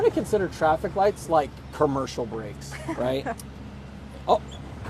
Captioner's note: chuckles